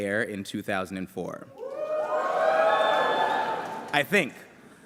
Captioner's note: cheering